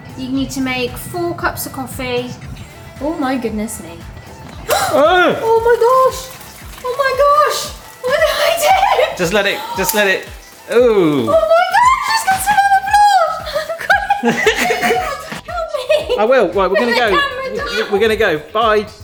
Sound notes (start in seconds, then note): 4.4 gasping; 10.2 kettle clicking off; 13.1 laughing